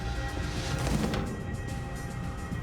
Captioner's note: door closes